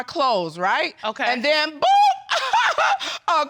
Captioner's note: laughs sarcastically